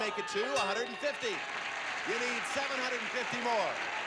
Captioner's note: audience applauding